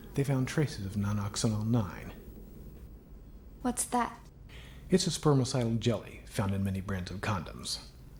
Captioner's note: none